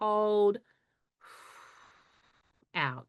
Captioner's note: exhales